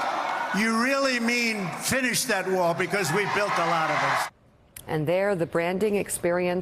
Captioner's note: crowd chanting "build that wall"